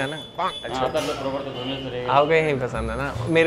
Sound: chattering

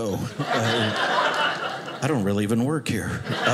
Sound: audience laughing

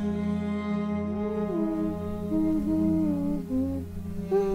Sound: humming

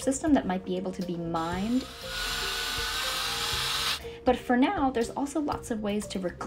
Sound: drill sound

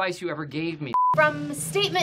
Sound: beeping

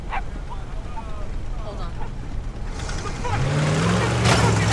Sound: dog barking

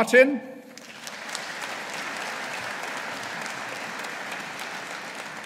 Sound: audience applauding

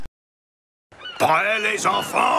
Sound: seagulls sounds can be heard in the background

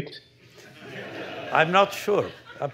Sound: laughter

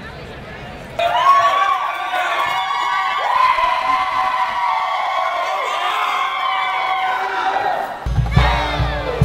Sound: students cheering

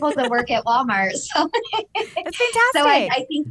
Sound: laughter

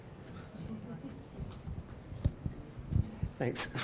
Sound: audience laughing

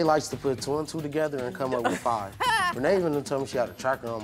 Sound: laughs

